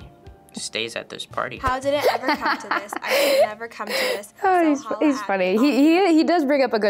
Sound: laughs

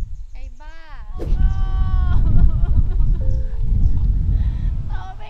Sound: sobbing

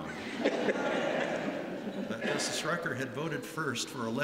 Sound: laughter

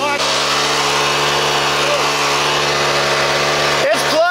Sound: water rushing

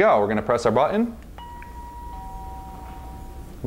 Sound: doorbell chime

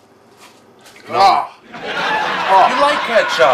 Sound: audience laughs

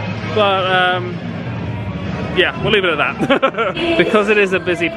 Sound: laughs

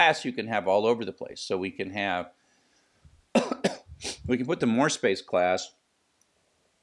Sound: cough

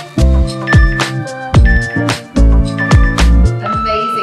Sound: timer beeping

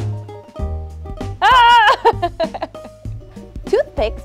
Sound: groaning, laughing

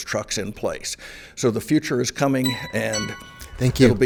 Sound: timer chimes

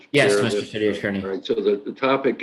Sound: overlapping chatter

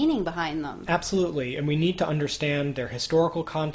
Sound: voiceover

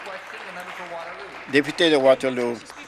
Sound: applause

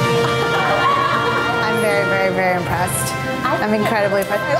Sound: laugh

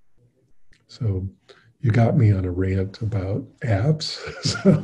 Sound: laughing

